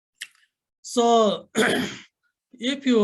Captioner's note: clears throat